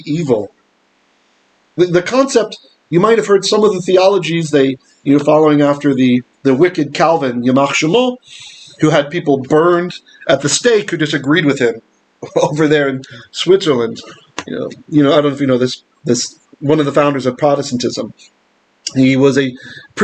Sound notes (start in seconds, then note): 7.5 Hebrew